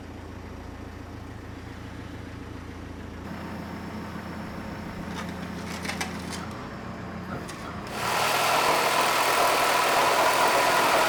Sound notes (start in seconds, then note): 5.3 engine purring; 7.4 tool whirring